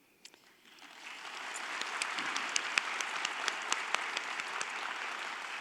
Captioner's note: audience applauding